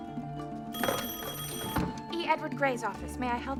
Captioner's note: rings